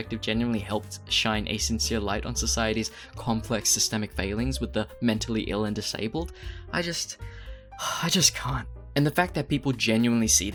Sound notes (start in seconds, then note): 7.1 sigh